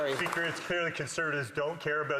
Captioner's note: applause